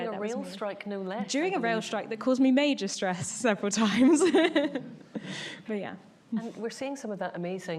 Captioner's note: laughs